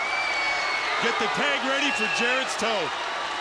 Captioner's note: crowd cheering